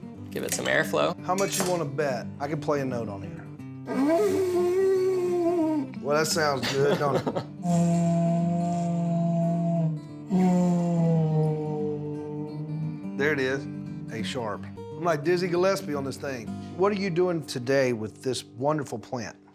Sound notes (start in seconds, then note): 3.8 horn sound; 6.0 laughing; 7.8 horn sound